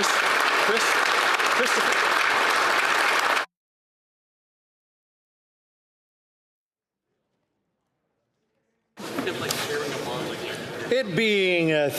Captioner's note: applause